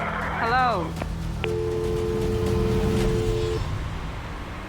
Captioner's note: dial tone; radio beeps